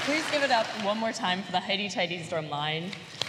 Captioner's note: applause